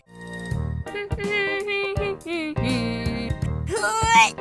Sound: humming

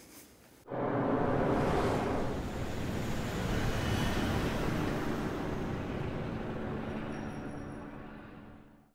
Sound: whooshing transition sound

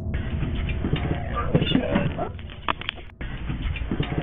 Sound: static hissing

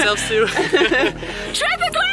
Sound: both laughing

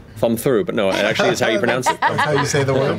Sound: laughter

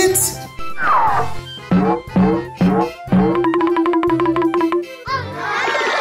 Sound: various cartoon sound effects

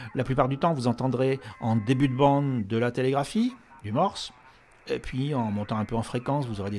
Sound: morse code

